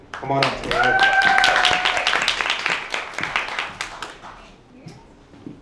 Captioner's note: audience cheers and applauds